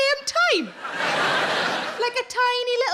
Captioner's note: audience laughing